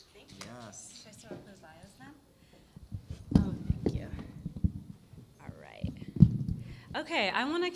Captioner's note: chatter